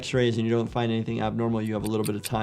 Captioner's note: clock ticking